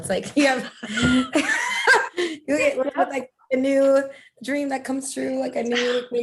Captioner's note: laughter